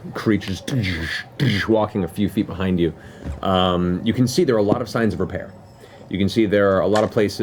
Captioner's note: footsteps